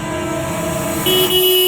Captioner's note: car Honking